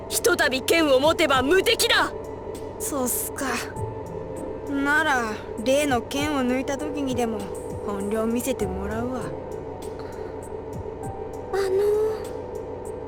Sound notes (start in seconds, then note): 10.0 breath